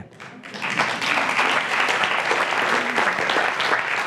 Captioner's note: applause